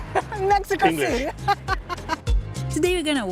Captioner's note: laughs